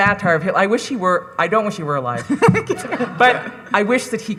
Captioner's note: laughing